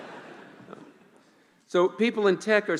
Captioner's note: laughing